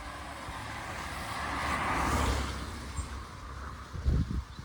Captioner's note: traffic noise